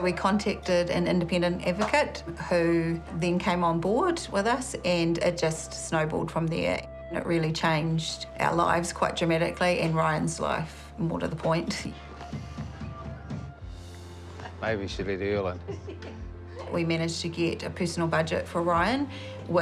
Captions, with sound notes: 'We contacted an independent advocate who then came on board with us, and it just snowballed from there.' It really changed our lives quite dramatically — and Ryan's life, more to the point. - Maybe we should let Earl in. - (CHUCKLES) 'We managed to get a personal budget for Ryan,